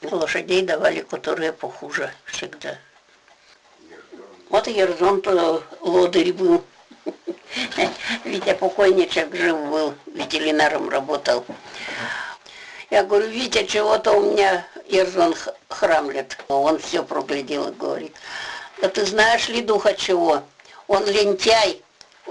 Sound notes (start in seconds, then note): 6.7 laughs